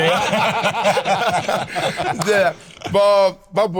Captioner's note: all laughing